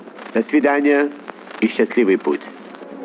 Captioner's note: speaking in Russian